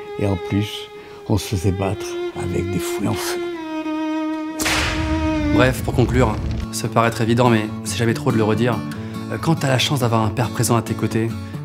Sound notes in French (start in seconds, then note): 4.6 fouet